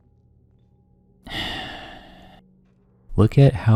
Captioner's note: sigh